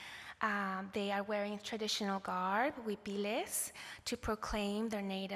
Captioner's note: non english